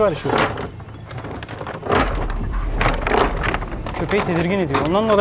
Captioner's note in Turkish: Zincir sesi